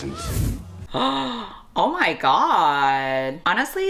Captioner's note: gasps